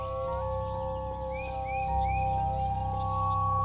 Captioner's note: loon warbling